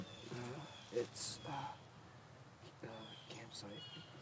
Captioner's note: groans